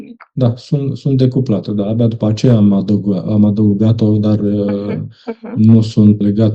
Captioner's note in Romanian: voce dreasă